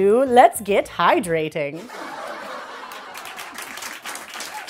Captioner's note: crowd laughs and claps